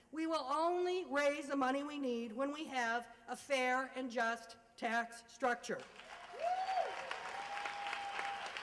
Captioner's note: applause